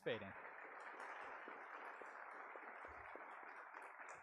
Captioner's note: audience applauds